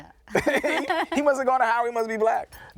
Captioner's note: laughing